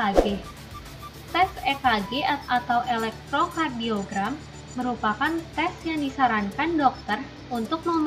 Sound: electrocardiogram

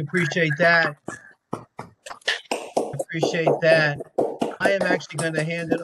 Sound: applause

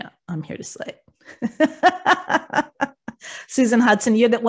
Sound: laughs

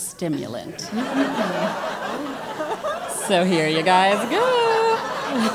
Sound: laugh

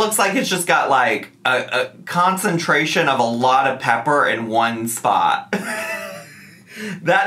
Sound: laughs

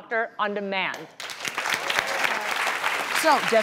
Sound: applause

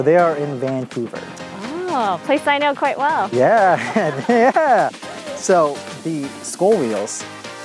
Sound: laughs

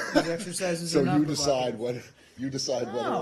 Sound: laughter

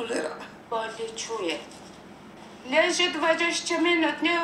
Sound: foreign language

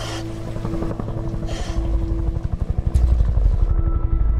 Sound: helicopter whirring

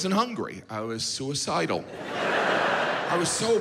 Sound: audience laughs

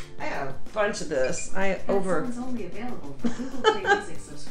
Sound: computer Voice; laughing

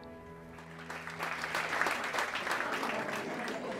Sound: applause

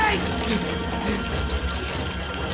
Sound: scuttling

